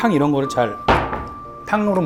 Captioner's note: slam!